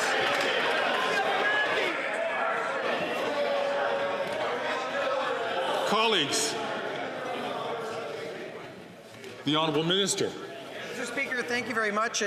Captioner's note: some Applause